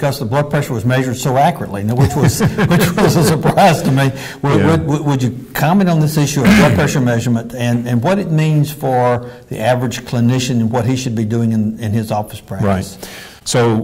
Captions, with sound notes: because the blood pressure was measured so accurately. (laughter) Which was a surprise to me. - Yeah. - Would you comment on this issue of blood pressure measurement and what it means for the average clinician and what he should be doing in his office practice. - Right.